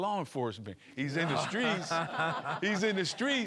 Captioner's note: laughing